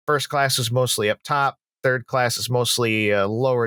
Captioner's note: none